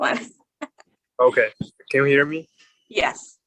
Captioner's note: chuckling